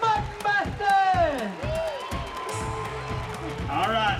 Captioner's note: crowd cheers, claps